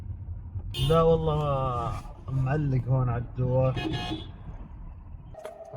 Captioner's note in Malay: bertutur dalam bahasa Arab